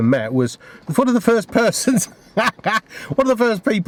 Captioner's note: laughs